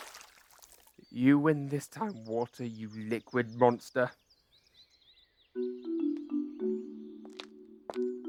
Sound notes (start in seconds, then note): 0.0 splash; 6.0 upbeat travel music & footsteps